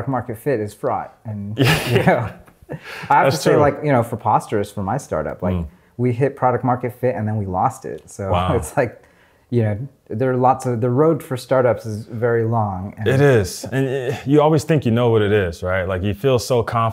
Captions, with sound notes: - I mean, the quest for product-market fit is fraught. - Yeah (laughing). That's true. - I have to say like, you know, for Posterous, for my startup, like we hit product-market fit and then we lost it. So it's like... - Wow. - You know, there are lots of, the road for startups is very long. - It is. And you always think you know what it is, right?